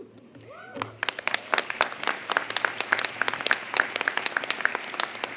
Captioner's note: audience applauds